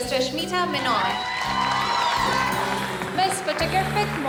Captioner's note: crowd cheers